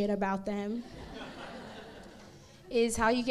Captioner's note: crowd laughs